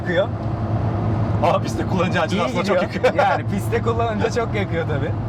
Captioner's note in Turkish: Gülme sesi